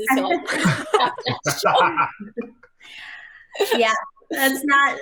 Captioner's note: all laughing